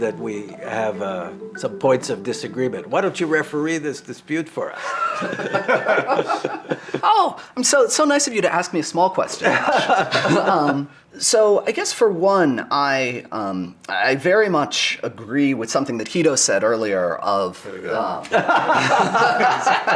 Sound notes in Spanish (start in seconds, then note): 4.8 risas; 9.4 risas; 18.2 risas